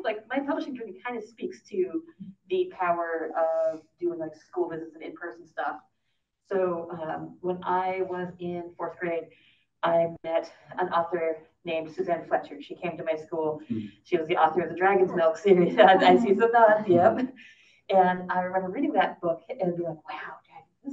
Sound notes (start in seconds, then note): 16.7 laughs